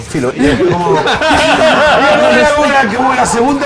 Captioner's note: laughs